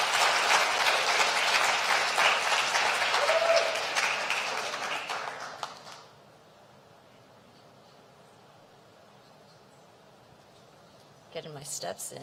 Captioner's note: applause